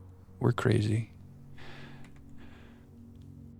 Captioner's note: sighs